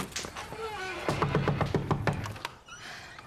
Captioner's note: knocking on door